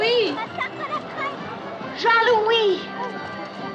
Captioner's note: boy chattering in French